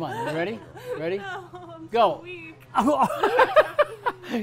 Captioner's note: laughs